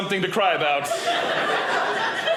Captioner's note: audience laughing